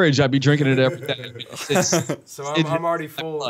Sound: laughter

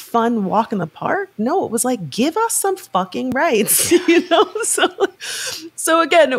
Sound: chuckles

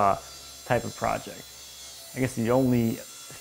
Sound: saw whirring

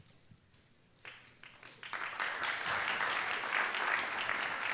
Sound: applause

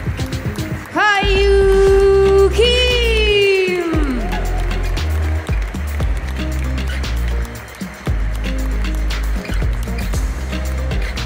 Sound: applause; applause

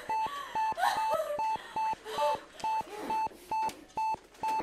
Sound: Robin crying

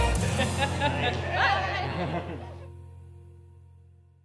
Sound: upbeat music; laughs

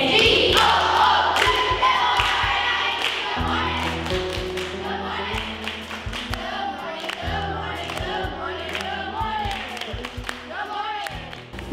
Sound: children chanting good morning

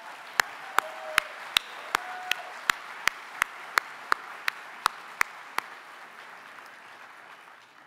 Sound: applause

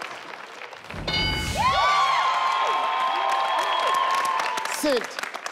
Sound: all cheering and clapping; bell chiming

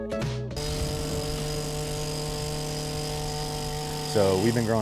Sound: trimmer cutting

